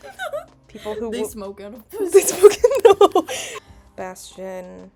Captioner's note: laughing